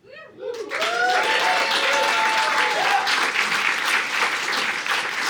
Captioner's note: audience applauding